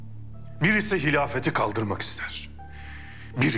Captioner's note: none